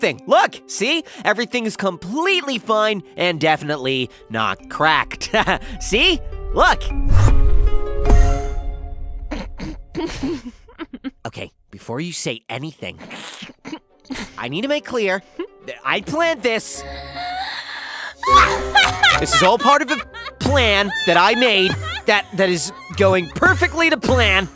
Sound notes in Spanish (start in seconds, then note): 9.3 se ríe; 13.7 sigue riéndose; 18.2 se caga de la risa; 18.2 Alex riéndose de fondo